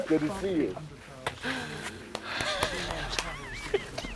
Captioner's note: laughs